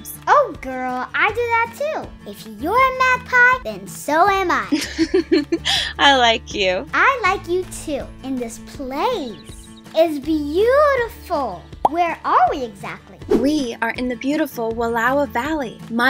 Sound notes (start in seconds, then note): 4.6 laughs